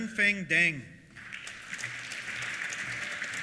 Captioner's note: applause